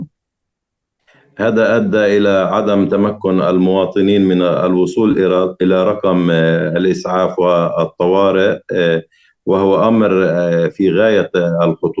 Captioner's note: speaking arabic